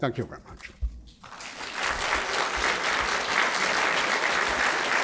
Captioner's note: applause